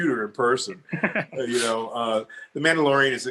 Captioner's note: laughs